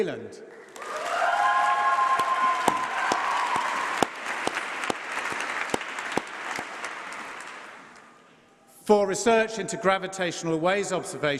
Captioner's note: applause